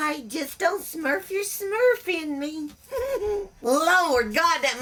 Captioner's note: giggles